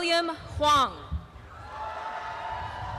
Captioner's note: applause and cheering